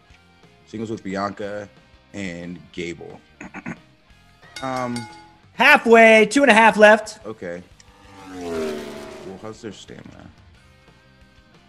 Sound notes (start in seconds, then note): 3.4 cough